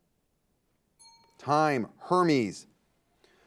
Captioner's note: timer beeping